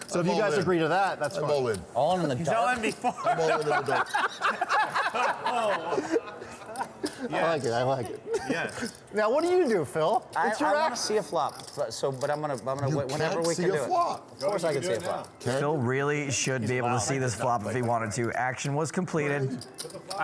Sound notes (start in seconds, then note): 1.4 laughter